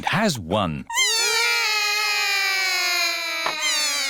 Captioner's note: all cry